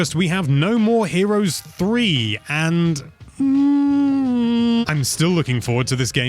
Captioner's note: concerned Noises